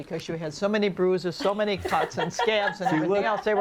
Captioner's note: laughs